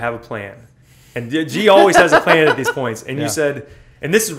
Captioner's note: laughter